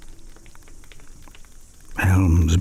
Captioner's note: fire crackling and night insects buzzing